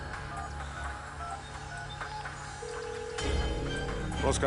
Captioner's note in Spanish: Sonido al marcar